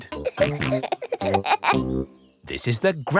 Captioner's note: peppa and george laughing